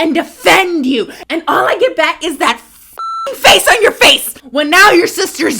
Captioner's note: beep